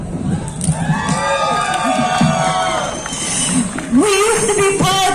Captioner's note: crowd cheering